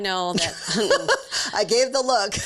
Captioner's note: laughing